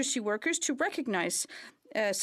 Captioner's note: speaking in French